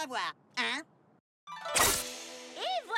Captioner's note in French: claquement d'épées